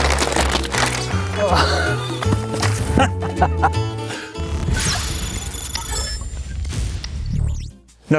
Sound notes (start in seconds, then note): 1.3 laughing; 4.7 dramatic music